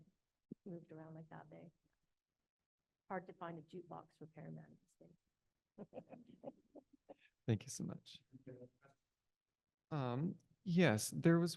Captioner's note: chuckles